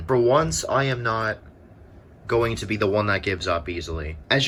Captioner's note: none